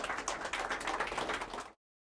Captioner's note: applause